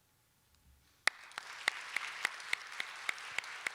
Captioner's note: applause